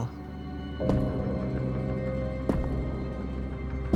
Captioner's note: ominous footsteps